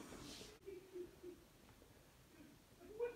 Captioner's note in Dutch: lacht